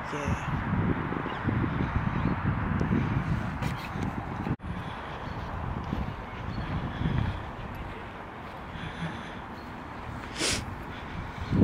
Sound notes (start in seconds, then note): 4.6 heavy breathing and deep thought; 10.3 sniffles